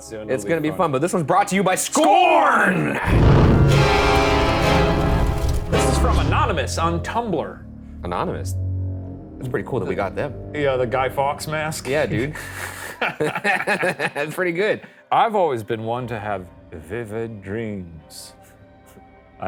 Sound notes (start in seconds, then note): 3.7 ominous music; 12.1 laughing